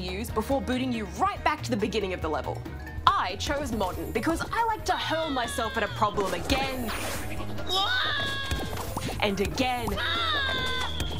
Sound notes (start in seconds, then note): 7.6 screams; 9.9 screams